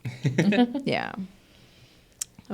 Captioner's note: group laughs